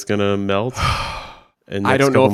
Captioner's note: sighs